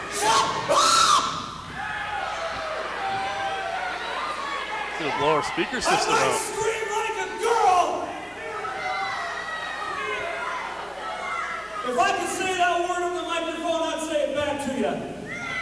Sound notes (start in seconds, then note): 0.1 screams; 1.9 crowd yells; 15.4 crowd boos and yells